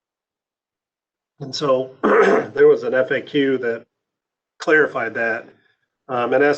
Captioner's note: clears throat